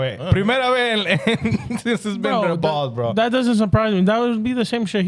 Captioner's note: speaking In Foreign Language